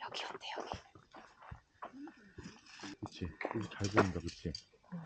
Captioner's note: the atmosphere is quiet, so we start whispering